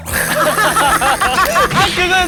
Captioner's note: claps in agreement